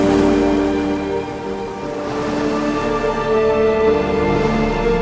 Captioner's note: waves lapping; gulls squawking